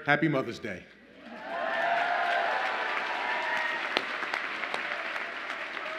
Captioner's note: audience applauds and cheers